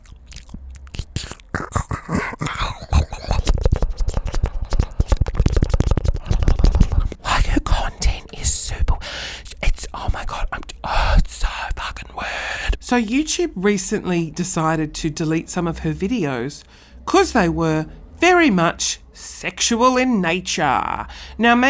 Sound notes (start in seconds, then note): 0.1 makes various mouth noises; 8.9 sputtering in frustration; 13.0 talking normally